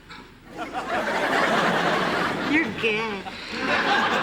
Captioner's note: laughter